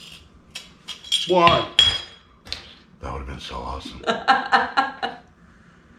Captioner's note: lid clangs on worktop